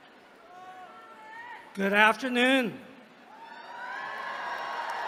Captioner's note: applause